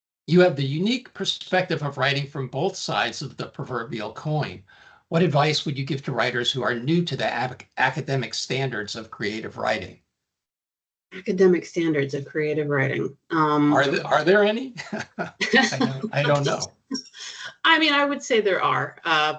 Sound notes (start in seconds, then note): 13.7 chuckling